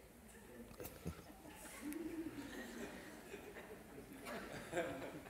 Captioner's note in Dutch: gelach